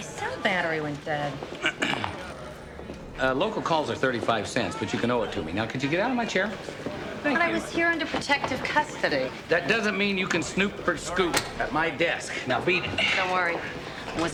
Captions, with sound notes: - Sorry. My cell battery went dead. - (clears throat) Uh, local calls are 35 cents, but you can owe it to me. Now, could you get out of my chair? Thank you. - I thought I was here under protective custody. - That doesn't mean you can snoop for scoop at my desk. Now, beat it. - Don't worry.